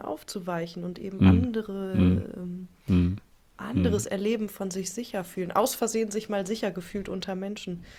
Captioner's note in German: räuspern